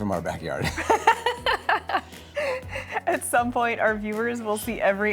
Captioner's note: laughing